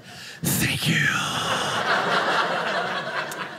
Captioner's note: audience laughing